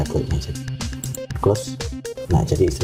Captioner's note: click